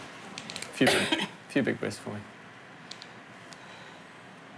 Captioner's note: coughs